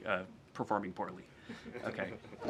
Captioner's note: laughter